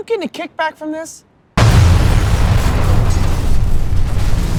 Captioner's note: explosion